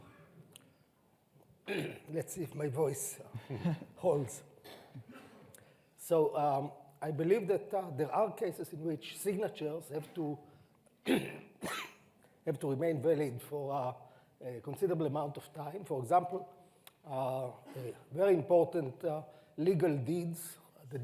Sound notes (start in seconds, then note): 1.6 clears throat